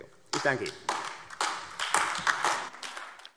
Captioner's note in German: Beifall AfD